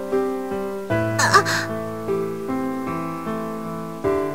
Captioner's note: rain